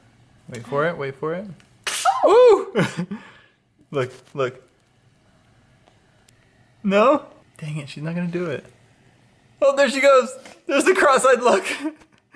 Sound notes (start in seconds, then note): 1.8 sneeze; 2.7 chuckling